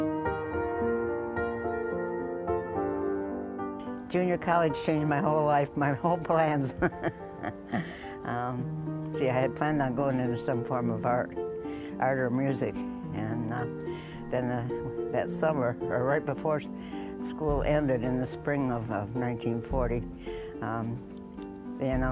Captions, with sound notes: (gentle piano music) >> Junior College changed my whole life, my whole plans. (laughing) Yeah, I had planned on going into some form of art... art or music, and then that summer, or right before school ended in the spring of 1940,